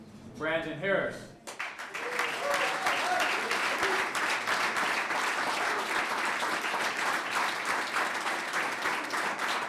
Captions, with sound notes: Brandon Harris. [CLAPPING]